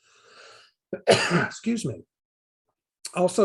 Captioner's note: coughs